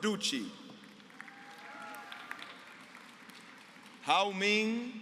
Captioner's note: applause